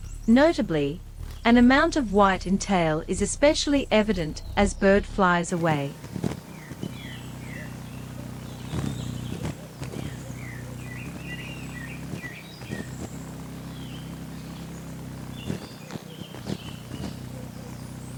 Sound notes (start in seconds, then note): 5.8 bird wings flapping; 6.4 birds chirping; 14.3 bird wings flapping; 14.3 birds chirping